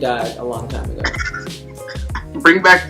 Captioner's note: laughter